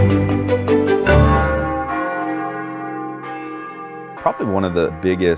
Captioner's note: bells ringing